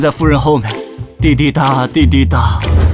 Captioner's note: tick-tock… tick-tock…